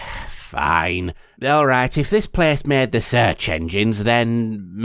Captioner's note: sigh